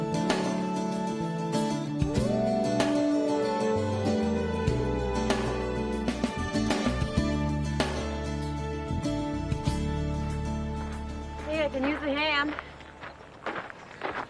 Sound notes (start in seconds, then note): 2.0 wolf howls